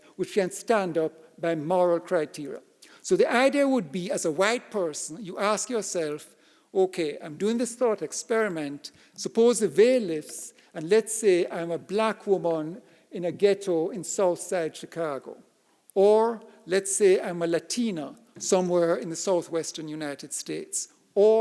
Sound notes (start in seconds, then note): none